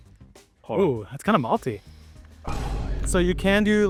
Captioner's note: thunder rolling